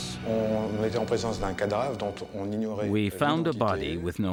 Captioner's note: speaks in foreign language